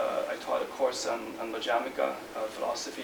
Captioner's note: non-english speech